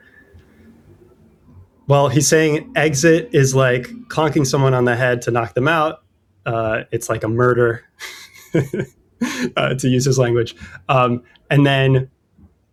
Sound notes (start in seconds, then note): 7.8 uh; 8.0 laughter; 9.2 uh